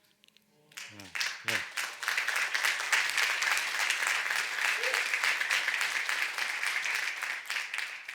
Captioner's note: applause